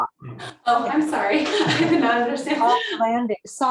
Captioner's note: laughs